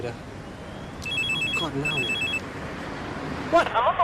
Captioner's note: phone ringing